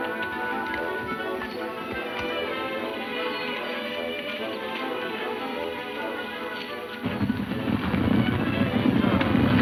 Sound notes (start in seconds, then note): 5.7 hooves thudding